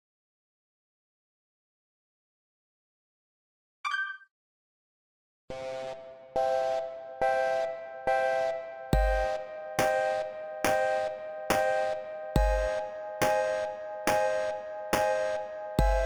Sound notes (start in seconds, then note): none